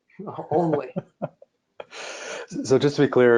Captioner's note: laughing